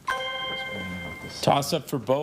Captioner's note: chime resonating